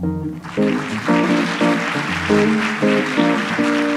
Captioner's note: audience applauds